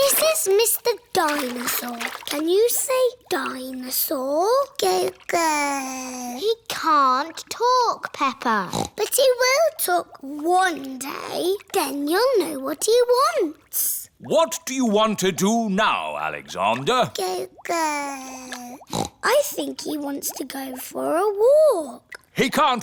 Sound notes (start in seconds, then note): 5.6 babbles; 8.6 snorts; 17.7 babbles; 18.6 snorts